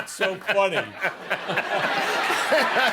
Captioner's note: laughter